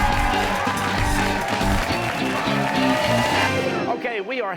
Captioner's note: cheers and applause